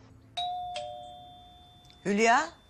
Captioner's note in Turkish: Zil sesi